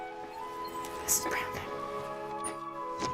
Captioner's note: Sheila whispers as a man enters through a door in the wall